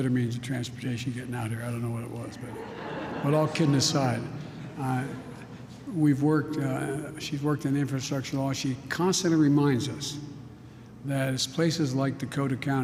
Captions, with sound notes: of transportation getting out of here. I don't know what it was, but -- (laughs). But all kidding aside, I -- we've worked -- she's worked on the infrastructure law. She constantly reminds us that it's places like Dakota County,